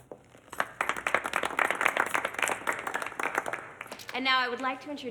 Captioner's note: crowd clapping